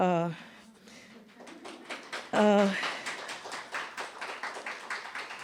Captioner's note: audience applauding